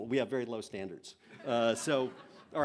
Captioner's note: laughter